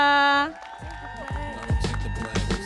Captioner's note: audience cheering and applauding